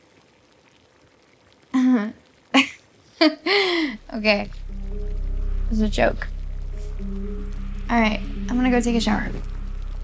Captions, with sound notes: (Janine laughs awkwardly) Okay. It is a joke. All right, I'm gonna go take a shower.